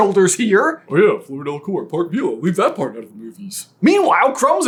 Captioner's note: mockingly